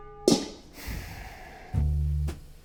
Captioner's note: cloche clangs; exhales loudly; bouncy jazz music